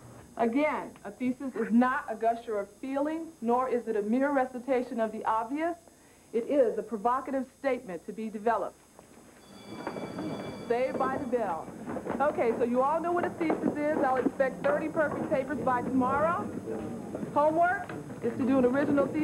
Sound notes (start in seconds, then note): 9.4 bell rings